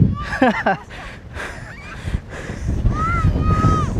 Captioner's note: laughter